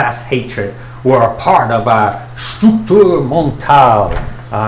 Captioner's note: non-english speech